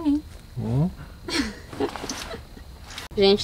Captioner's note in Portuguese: Risos